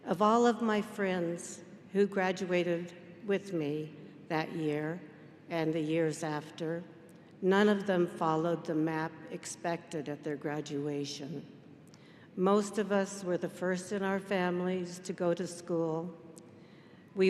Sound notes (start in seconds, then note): none